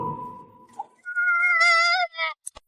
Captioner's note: screaming